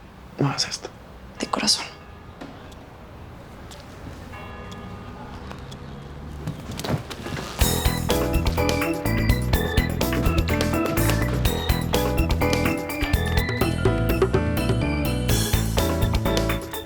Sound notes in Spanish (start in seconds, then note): 4.3 Campanadas